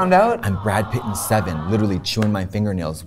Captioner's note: audience groaning